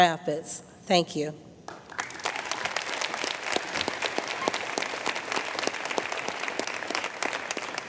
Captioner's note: applause